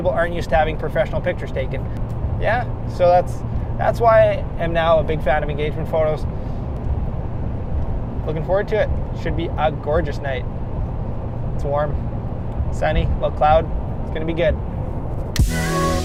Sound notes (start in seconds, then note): none